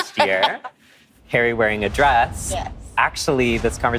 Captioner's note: laughing